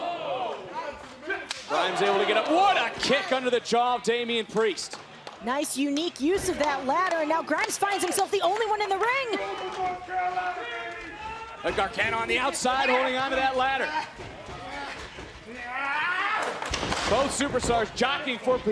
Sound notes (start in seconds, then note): 9.8 crowd chatter